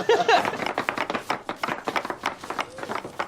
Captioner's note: banging